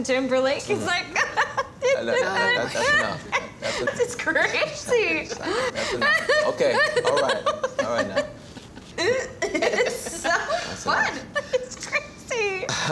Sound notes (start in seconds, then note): 1.0 laughter; 5.7 laughter continues